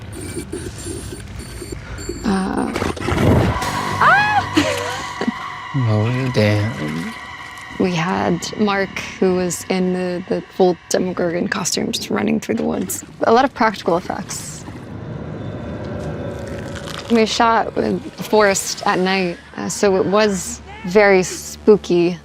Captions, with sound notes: (Demogorgon growls) Ahh! (laughs) - Oh damn. - We had Mark who was in the full Demogorgon costume just running through the woods. A lot of practical effects. We shot in a forest at night, so it was very spooky,